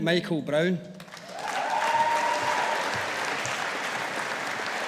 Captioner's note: audience applauding